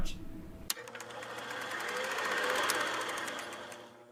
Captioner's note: film roll rattling